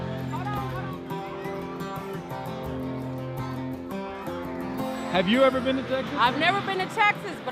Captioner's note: soft music; people chattering